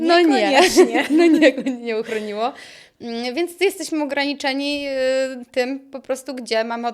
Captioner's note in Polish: śmiech